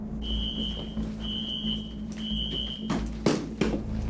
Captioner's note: alarm screeching